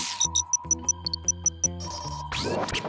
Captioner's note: satellite beeps